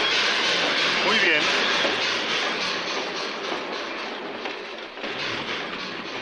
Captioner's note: stationmaster speaks Spanish